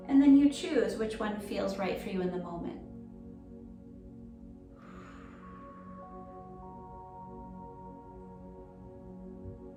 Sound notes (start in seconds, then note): 4.8 pursed lips breathing